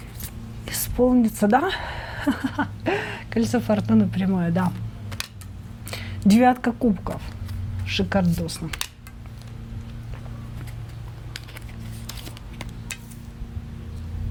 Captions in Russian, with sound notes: исполнится. Да, [смех] кольцо фортуны прямое. Да, девятка кубков. Шикардосно.